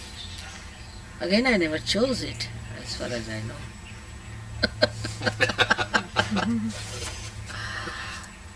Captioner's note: shree mataji laughs